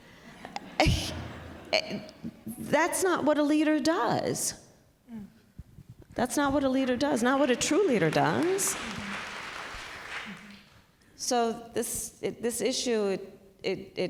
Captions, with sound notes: (Laughter.) That's not what a leader does. That's not what a leader does, not what a true leader does. (Applause.) So this -- this issue, it --